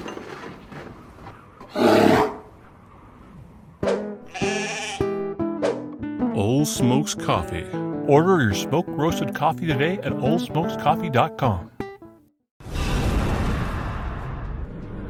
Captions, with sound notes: (growls) (bahhing) Ole Smokes Coffee. Order your smoke-roaedst coff teeoday at OldSmokesCoffee.com ho(wosh)